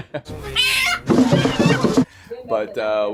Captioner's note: chicken squawking